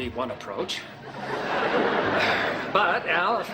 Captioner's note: audience laughing